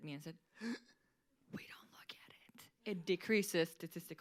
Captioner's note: gasps